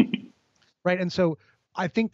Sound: laughs

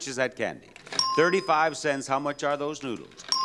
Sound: bell dinging

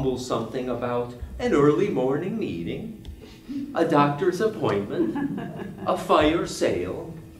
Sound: Swedish accent

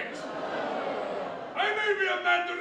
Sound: audience laughter

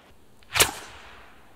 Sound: pfwoosh!

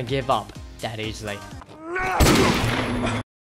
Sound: gunshot

